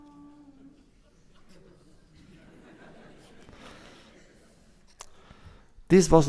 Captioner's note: laughter